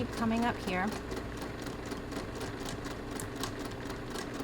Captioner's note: machine whirring